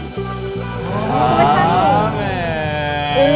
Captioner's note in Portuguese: pessoas admiradas em coro